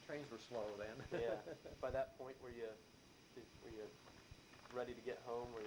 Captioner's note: laughs